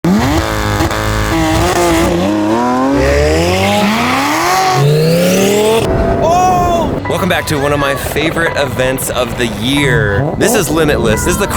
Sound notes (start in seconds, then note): 0.1 car engine revving